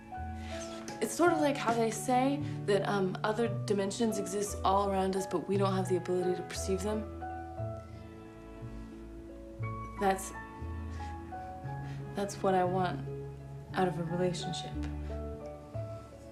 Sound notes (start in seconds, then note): none